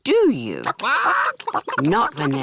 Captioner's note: chickens chatter